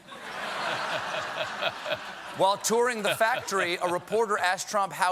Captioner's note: laughter